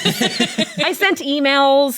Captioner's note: laughs